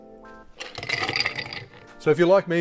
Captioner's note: ice clinking